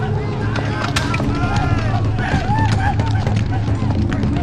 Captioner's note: gun bangs; all exclaiming